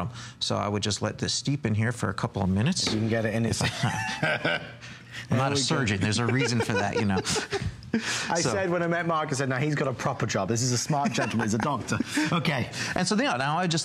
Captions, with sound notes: BOTTOM. WE WILL AT THIS STEPHEN HERE FOR A STEPH COUPLE OF MINUTES. [LAUGHTER] I AM NOT ASSERTING, I AM THERE IS A REASON FOR THAT YOU KNOW.--STEEP IN.